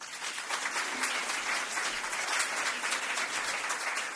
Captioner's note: applause